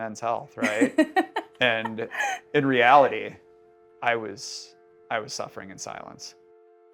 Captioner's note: laughing